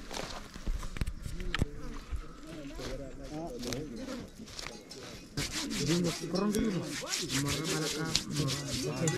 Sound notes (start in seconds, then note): 2.9 ash and soil scraping; 5.3 hands rubbing